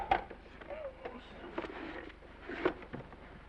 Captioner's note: receiver clattering; groans